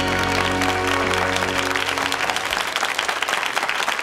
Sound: audience clapping

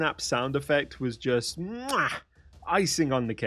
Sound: mwah

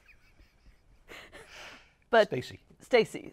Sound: laughs

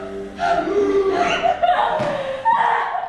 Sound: Eurydike wails

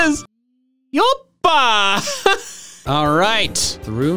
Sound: cheering

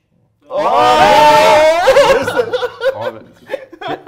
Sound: laugh

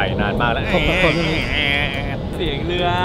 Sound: boats made so much noise

